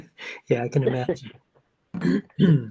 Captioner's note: laughs